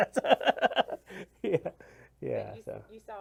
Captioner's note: laughs